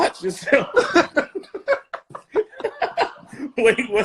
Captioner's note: laughing